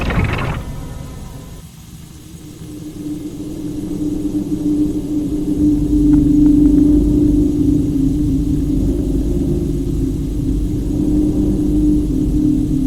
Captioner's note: bone-chilling droning emitting from the artifact